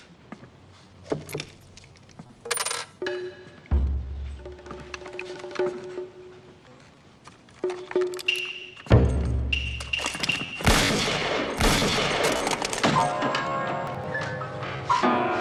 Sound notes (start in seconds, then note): 9.4 gunshots; 10.3 piano keys clanging